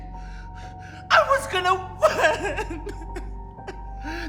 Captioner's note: sobs